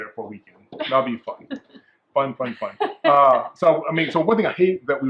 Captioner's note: laughs